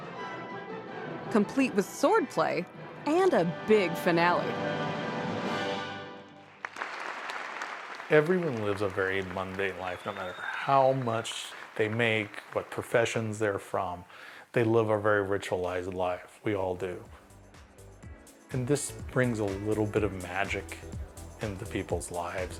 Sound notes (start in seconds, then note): 3.4 orchestral fanfare swells; 6.4 applause